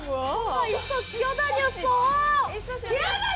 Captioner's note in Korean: 목격자들의 흐느낌